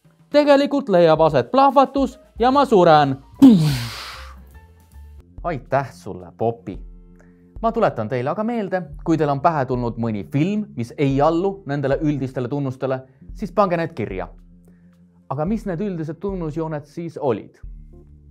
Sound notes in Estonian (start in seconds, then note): 3.4 suuga tehtud plahvatuse hääl